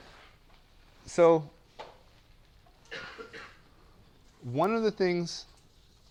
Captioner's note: cough